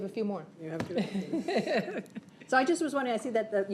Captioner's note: chuckles